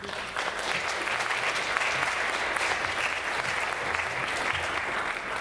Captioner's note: audience applauding